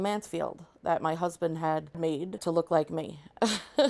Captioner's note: laughs